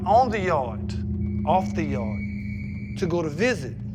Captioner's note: whistle blowing